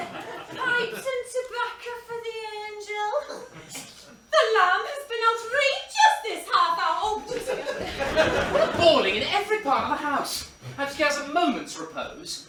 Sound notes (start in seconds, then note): 0.2 northern accent; 3.2 welsh accent